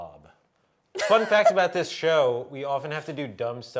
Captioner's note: laughs